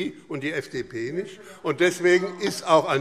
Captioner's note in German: Zuruf